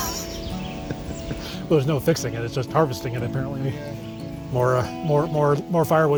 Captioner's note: laughs